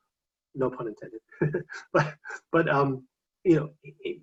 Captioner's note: chuckles